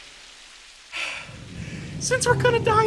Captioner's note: gasping for air